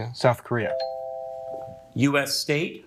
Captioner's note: bell ringing